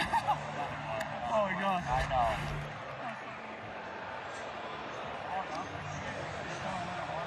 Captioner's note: laught